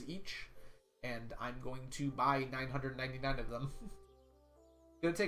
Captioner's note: chuckles